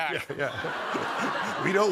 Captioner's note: laughter